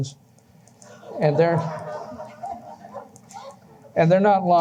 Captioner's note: laughter